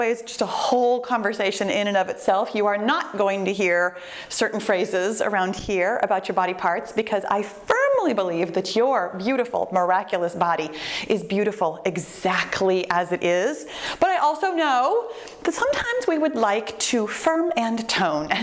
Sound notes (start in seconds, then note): none